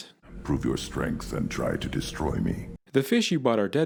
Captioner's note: grunt